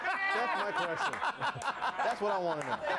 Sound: laughter

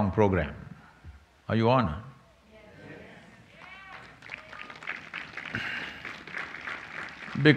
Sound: applause

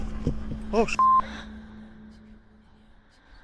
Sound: beep

